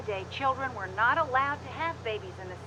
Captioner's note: none